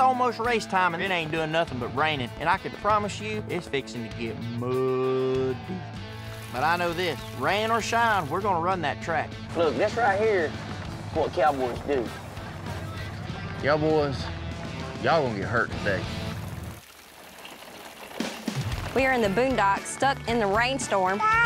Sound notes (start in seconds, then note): 17.3 hoof beats